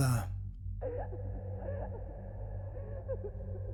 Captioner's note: cries